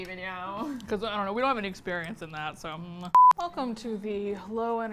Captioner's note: monotone